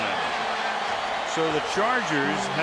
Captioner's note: cheering